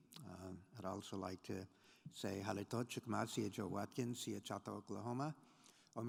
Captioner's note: speaking in foreign language